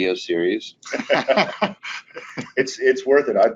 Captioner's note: men laughing